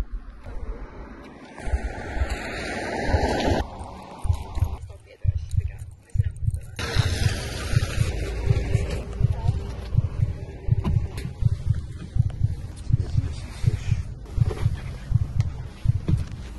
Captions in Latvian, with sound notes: [ dzirdami pastiprināti sirdspuksti ] Piecdesmit seši